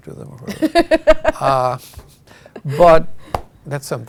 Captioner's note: laughing